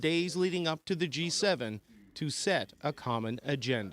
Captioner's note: speaking French